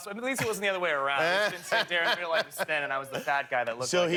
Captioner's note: laughter